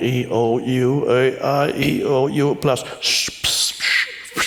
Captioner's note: shushing